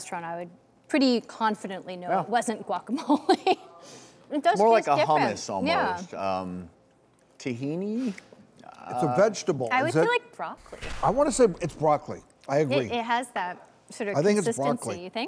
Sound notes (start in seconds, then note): 3.4 laughs